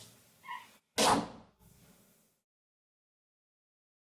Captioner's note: door opens; door closes